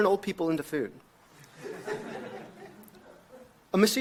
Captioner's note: audience laughs